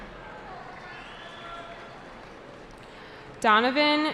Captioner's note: cheering